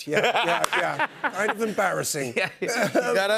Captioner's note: chuckles